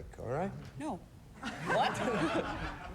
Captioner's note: chuckles